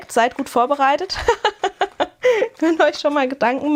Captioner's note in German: gelächter